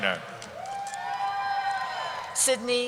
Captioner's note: cheering